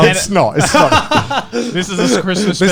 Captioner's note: chuckling